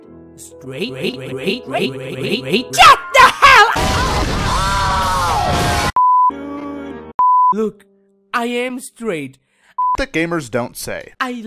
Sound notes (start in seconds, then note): 7.2 beep, again